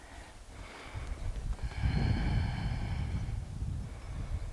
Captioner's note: deep breathing